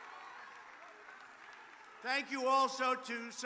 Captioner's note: applause